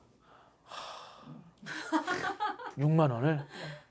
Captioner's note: deep sigh from the soul